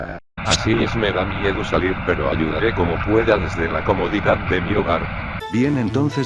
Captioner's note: radio